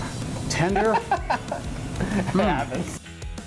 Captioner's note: laughing; upbeat music